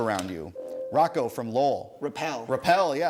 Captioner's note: ding